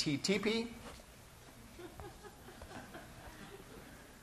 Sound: laughter

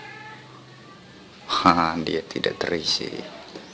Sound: laugh

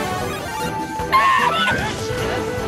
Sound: meme laugh

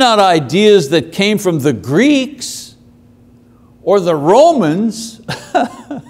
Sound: laughs

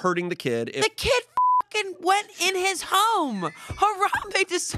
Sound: beep

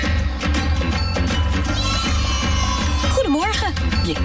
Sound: children cheering; female announcer speaking an Asian language

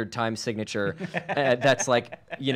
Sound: laughs

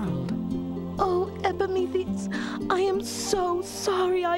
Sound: none

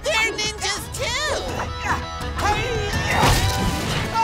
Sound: grunting

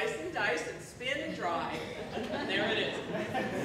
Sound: laughter

